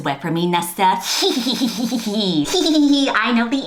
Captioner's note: snickers